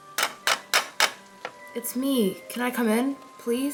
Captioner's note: knocks